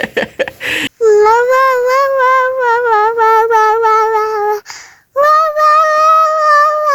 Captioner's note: cute toddler babbles